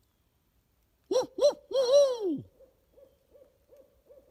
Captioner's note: hooting; owl hooting